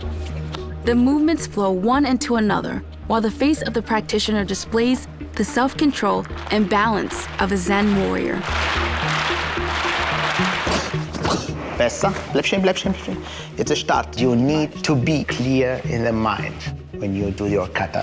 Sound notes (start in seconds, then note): 8.1 rhythmic clapping; 11.4 in German